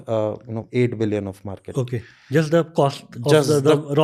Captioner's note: speaks in Hindi